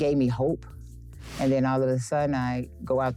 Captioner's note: air whooshing